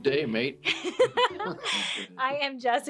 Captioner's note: laughs